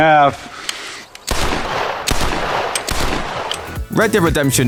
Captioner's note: gunshots